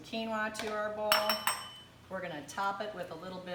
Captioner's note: spoon tapping